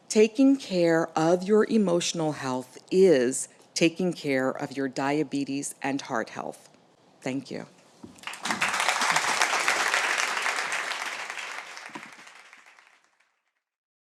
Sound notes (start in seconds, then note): 8.1 audience clapping